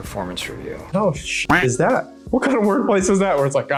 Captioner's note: duck quacks